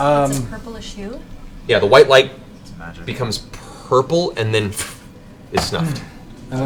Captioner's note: ffft